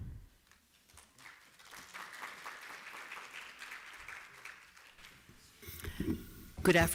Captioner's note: applause